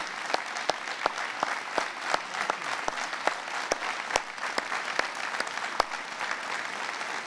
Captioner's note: applause